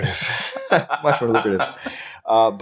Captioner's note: laughing